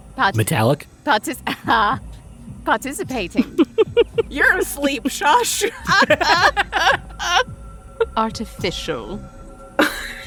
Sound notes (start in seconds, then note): 5.5 laugh